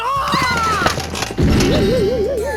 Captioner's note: panicked gasp